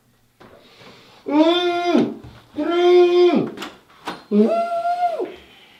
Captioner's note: screaming